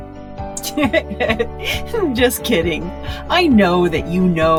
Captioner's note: laughing